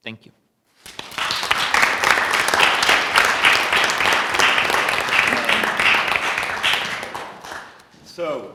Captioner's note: applause